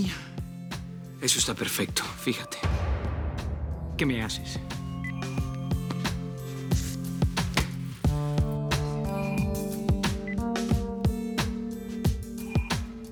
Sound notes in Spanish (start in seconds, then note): 8.1 Bip